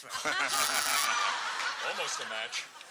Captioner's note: cheering